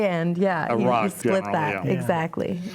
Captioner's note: laughs